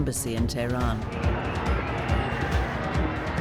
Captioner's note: crowd shouting